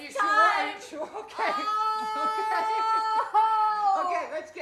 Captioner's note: cries out